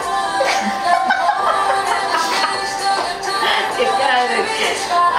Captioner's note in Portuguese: risos